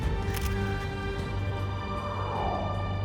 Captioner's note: camera shutter clicks